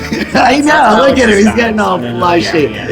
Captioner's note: laughing